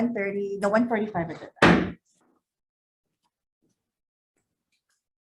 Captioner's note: gavel bangs